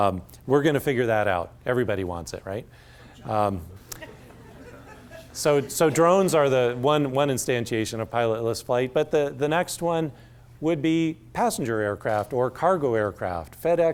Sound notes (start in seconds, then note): 3.8 laughter